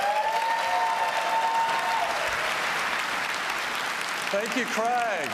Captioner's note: applause